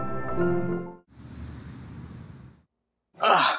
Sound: vehicle passing

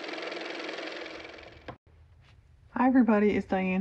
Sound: car motor

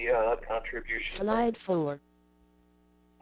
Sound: voiceover

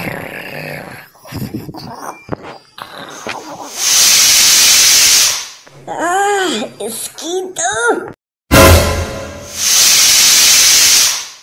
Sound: snoring; pressure cooker Whistle; serious Music

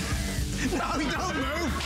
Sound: laughter

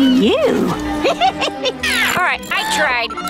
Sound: laughing

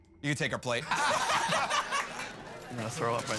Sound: laughing

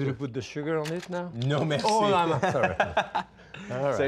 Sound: laughing

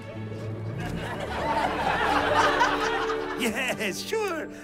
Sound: laughter

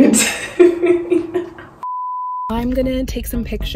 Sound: laughs; beep

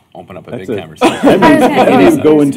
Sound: laughter

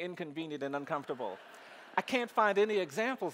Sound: audience laughing

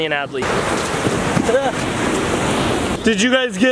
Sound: waves crashing

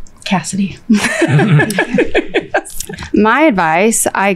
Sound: all laughing

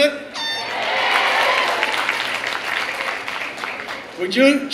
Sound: clapping and cheering

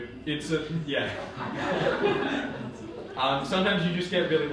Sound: audience laughing

